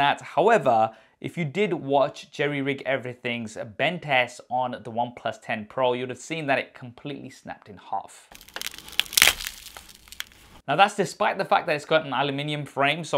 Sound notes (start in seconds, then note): 8.3 phone cracking